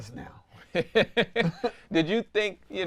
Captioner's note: laughs